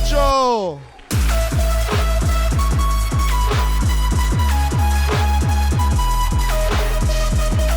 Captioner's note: dance music continues; audience applauds